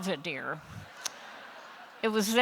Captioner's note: laughter